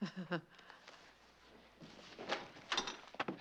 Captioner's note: chuckles